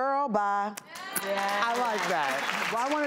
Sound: audience clapping

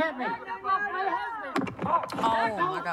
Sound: thuds

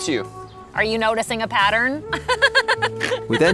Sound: giggles

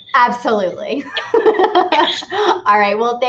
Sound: laughs

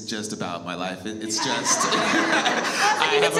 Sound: all laugh

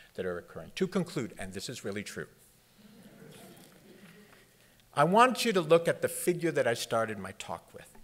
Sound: laughter

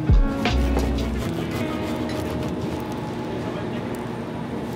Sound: bagel crunching

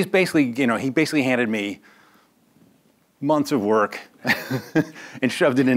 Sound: laughs

